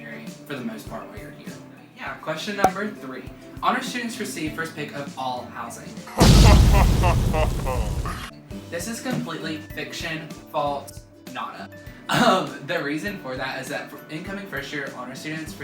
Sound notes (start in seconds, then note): 6.2 evil laugh